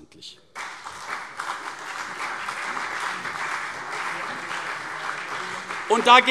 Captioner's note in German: Beifall CDU und BÜNDNIS 90/DIE GRÜNEN